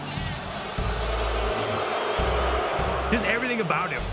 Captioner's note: crowd booing